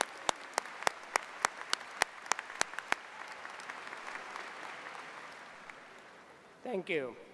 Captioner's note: applause